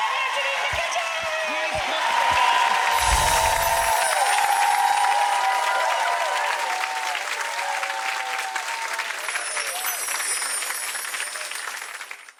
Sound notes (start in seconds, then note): 0.0 audience cheering; 2.9 whooshing and twinkling; 3.1 audience applauding